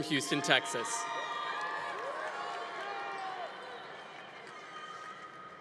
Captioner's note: congregation applauding